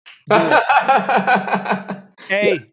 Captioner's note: laughs